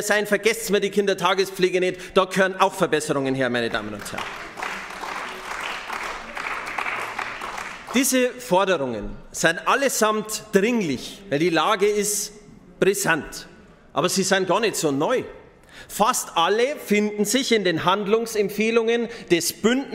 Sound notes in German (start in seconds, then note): 3.6 Beifall bei den GRÜNEN